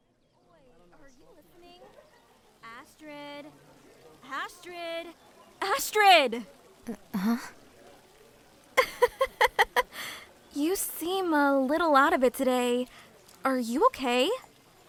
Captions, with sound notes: Oi- Are you listening? Astrid..? Astrid? Astrid! H-huh? (Worried laugh) You seem a little out of it today. Are you okay?